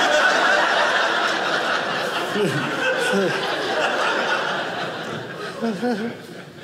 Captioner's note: audience laughing